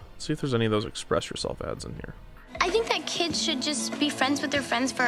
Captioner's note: none